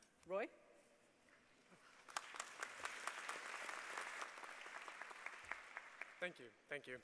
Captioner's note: applause